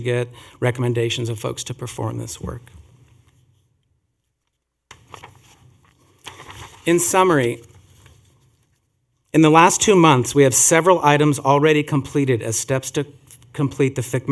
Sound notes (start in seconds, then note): 4.9 rustling of papers